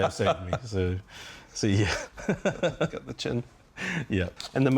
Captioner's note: laughs